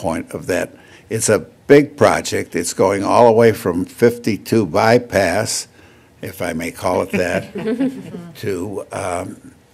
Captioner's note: laughter